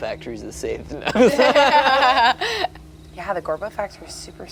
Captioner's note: group laughs